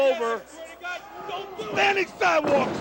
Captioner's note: crowd chatter